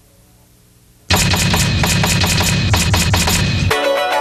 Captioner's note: typewriter pounding faster; typewriter pounding; funky music